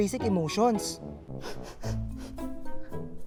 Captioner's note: sniffing